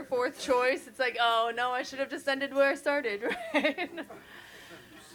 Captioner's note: chuckles